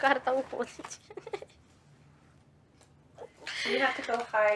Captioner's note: giggling